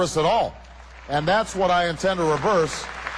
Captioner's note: cheers